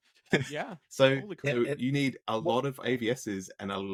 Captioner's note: both laughing